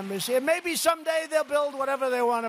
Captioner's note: applause